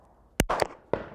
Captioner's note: bang